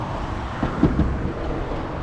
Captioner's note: tap tap tap